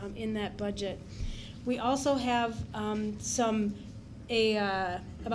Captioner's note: none